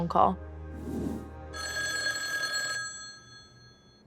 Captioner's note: phone rings